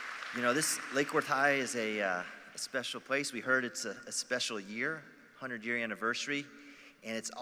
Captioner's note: applause